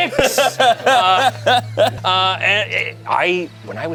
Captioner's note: everyone laughs